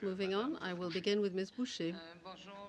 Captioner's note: speaking french